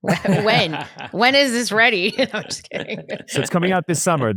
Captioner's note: laughs